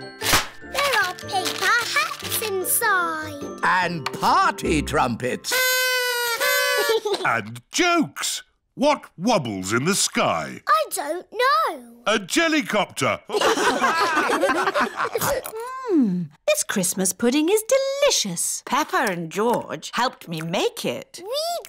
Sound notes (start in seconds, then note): 5.5 blowing; 13.3 all laugh